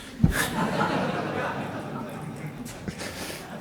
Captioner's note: laughter